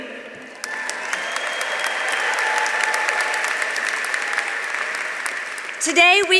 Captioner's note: audience applauding; audience cheering